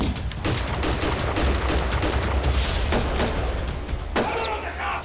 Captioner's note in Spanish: Disparos; Tiroteo